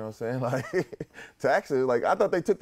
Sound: laughter

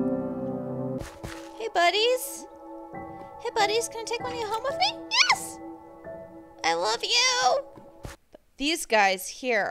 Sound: squeaks

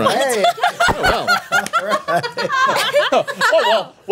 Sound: laughing

